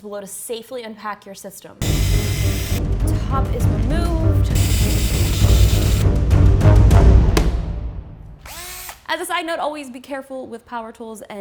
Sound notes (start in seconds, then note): 1.8 drill whirring; 1.8 dramatic music; 4.5 drill whirring